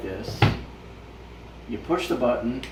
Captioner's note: thunk